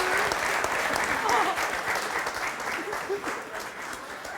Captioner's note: sobs